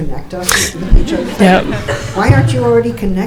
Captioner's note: audience laughing